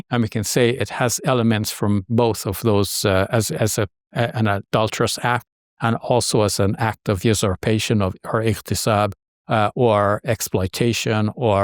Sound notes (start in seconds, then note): 6.9 speaking Arabic